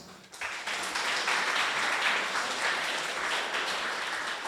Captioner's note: audience applauding